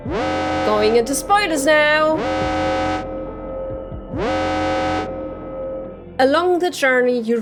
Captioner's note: alarm